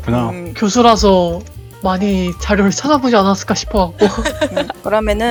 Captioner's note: laugh